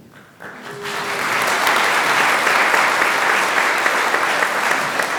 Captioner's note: applause